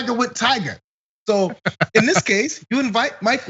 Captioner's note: laugh